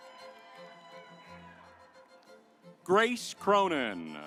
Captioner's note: audience applauds